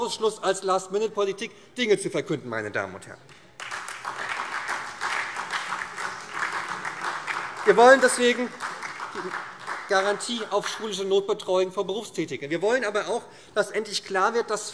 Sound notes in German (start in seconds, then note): 3.2 Beifall SPD, DIE LINKE und vereinzelt Freie Demokraten